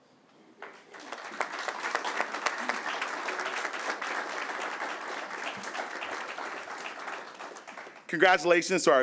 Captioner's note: applause